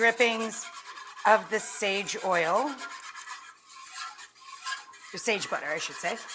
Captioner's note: whisk scraping pan